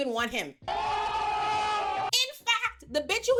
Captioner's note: crowd cheering